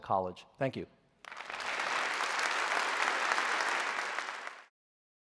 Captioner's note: applause